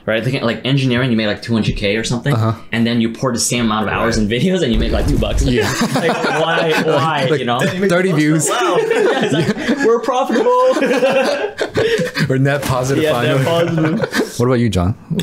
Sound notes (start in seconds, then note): 8.6 boys laughing; 11.3 laughing